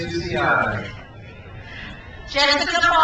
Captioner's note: crowd cheers